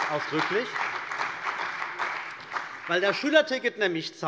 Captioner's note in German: Beifall bei der CDU und dem BÜNDNIS 90/DIE GRÜNEN